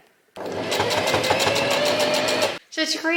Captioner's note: sewing machine surges